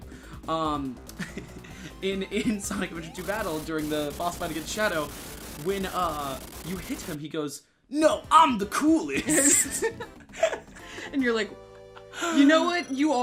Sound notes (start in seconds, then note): 9.1 both laughing